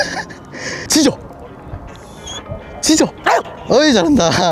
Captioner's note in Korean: 끼잉